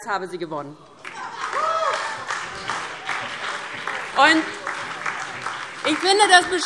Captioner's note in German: Beifall DIE LINKE und SPD - Zuruf AfD: Das ist niveaulos!